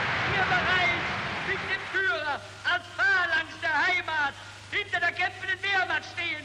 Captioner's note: crowd cheering and applauding; Goebbels speaking in foreign language